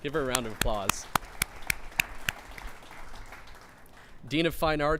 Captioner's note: clapping